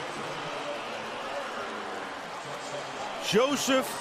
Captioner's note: pa announcement